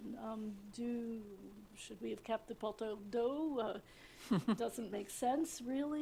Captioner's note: french